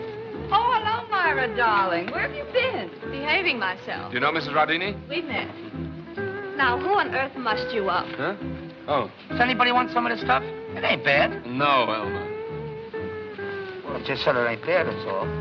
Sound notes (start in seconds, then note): none